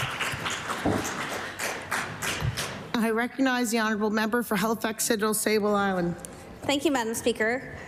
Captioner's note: applause